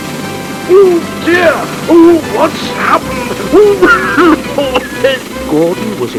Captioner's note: coughing